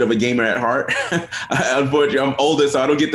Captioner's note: chuckles